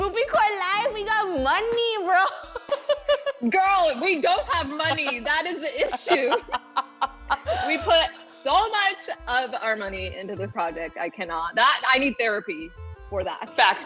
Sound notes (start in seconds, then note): 2.2 laughs; 4.6 both laugh